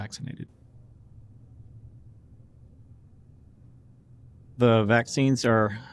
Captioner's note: silence